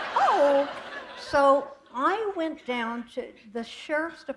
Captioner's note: laughter